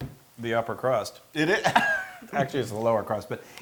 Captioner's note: laugh